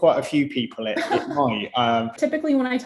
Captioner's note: laughs